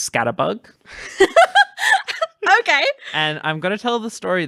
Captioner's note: laughing